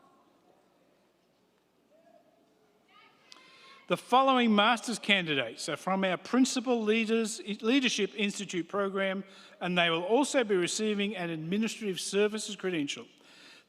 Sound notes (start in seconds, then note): none